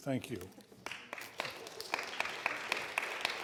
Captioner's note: applause